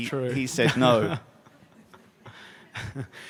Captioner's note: laughter